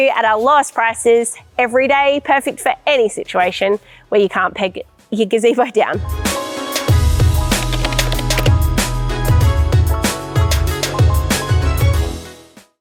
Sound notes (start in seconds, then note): 7.0 upbeat music; 7.5 keyboard clacking